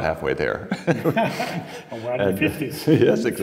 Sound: laughing

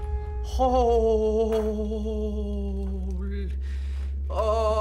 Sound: quiet, dramatic music; Carlos muttering fearfully

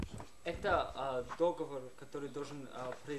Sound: non-english speech

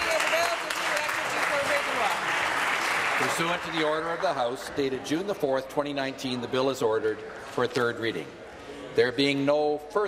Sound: applause

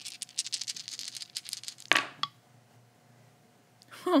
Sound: rattling

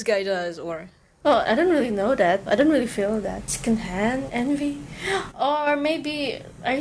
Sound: gaspgasp

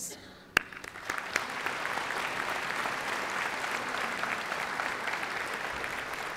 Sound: applause

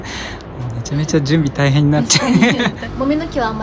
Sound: laughs

